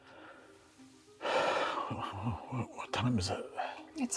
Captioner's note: intriguing music; exhales